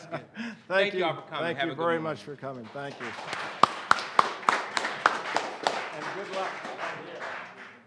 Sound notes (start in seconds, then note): 0.0 laughing; 4.6 applause